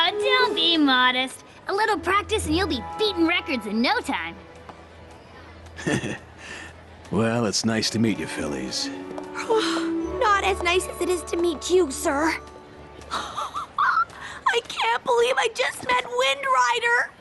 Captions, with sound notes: Don't be modest. A little practice and you'll be beating records in no time. Heh heh. Well, it's nice to meet you fillies. [sigh] Not as nice as it is to meet you, sir. I can't believe I just met Wind Rider!